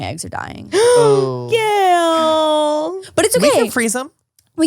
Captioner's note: gasps